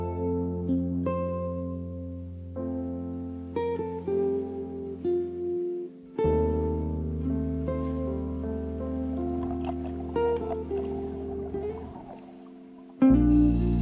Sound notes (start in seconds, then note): 0.1 string music; 9.1 scuba breathing